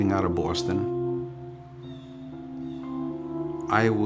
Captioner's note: water flowing; birds squawking